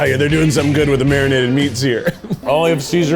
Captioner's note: laughs